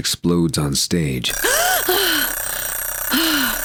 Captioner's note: alarm clock